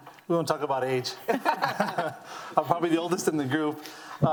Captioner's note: laughing